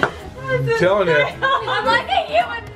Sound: laughs

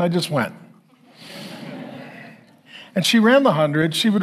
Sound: congregation laughing

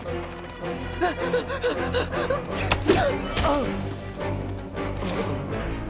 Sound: panting, grunts

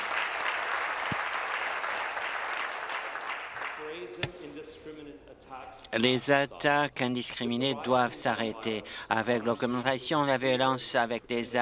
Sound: applause

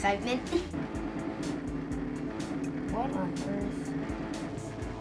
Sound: fax machine buzzing

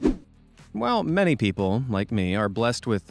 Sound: swoosh

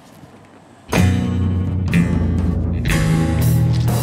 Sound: door slamming; downbeat music

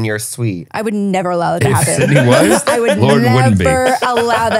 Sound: laughs

